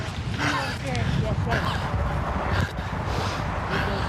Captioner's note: indistinct chatter